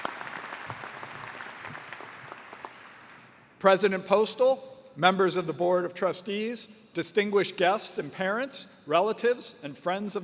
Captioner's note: applause